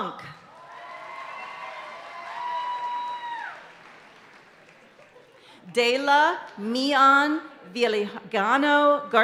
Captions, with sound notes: (audience cheering and applauding continues) Dayla Meon Viligano Garcia.